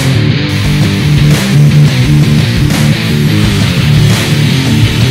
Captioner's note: power tool buzzing